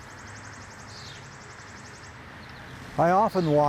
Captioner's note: birds twittering